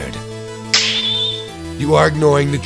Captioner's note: snap!